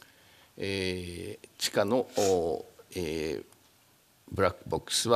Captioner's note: speaking japanese